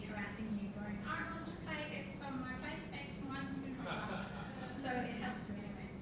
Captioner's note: audience laughing